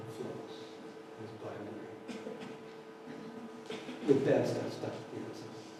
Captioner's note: audience laughter